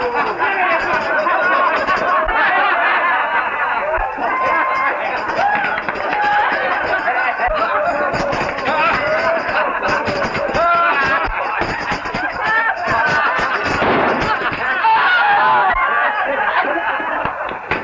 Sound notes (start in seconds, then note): 13.8 gunshot; 15.9 shouts